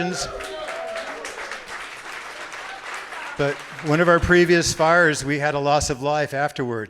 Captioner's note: cheers and applause